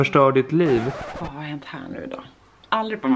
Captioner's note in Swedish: record scratch